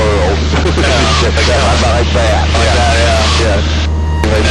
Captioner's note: laughing